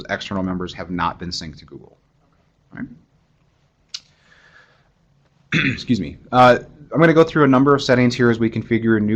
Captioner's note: cough